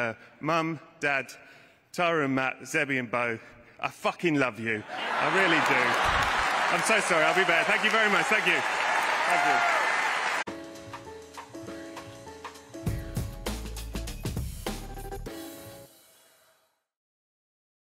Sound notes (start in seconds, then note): 8.8 applause